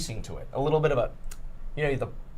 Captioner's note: clicks tongue